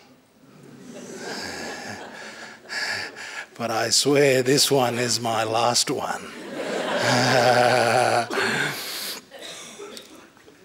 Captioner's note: laughter